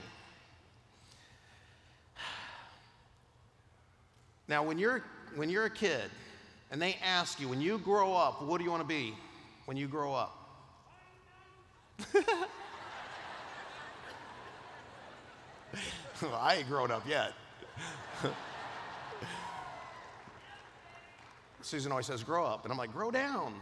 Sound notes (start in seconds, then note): 10.5 man in audience yells; 12.0 laughter